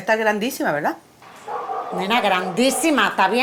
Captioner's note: dog barking